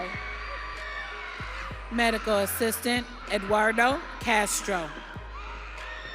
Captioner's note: audience cheering